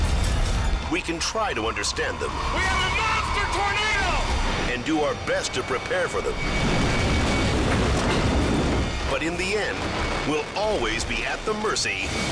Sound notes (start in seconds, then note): 0.0 glass shatters; 6.5 building rumbles